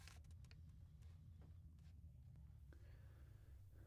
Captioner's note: crinkling